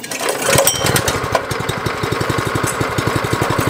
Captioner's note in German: Motor läuft